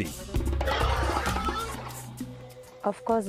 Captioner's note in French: cri de l'éléphant